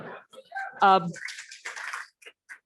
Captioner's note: audience laughs